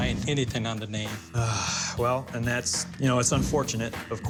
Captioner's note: sigh